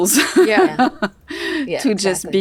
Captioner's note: laughs